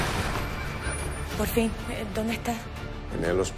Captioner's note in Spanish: Estruendo